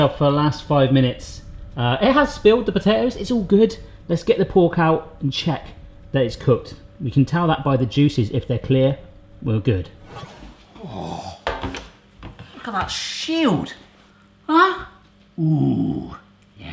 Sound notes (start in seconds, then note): 10.3 whooshing